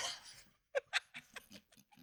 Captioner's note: laughs